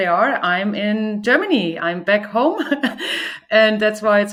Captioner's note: chuckles